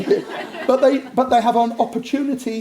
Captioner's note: audience laughs